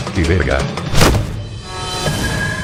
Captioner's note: hit